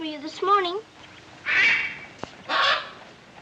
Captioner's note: Rani squawking